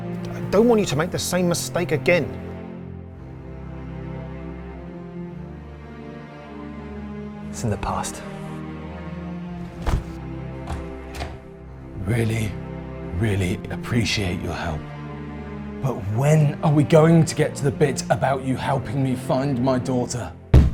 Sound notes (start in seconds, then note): 4.0 somber music continues; 9.6 jacket snaps; 10.6 door handle clicks; 20.5 fist pounding